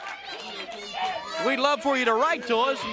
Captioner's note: crowd chatter; crowd cheering